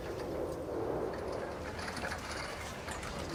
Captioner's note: wind blowing